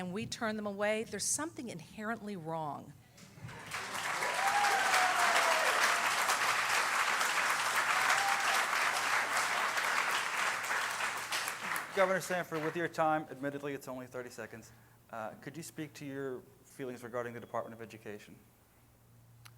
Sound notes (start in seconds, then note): 7.3 cheering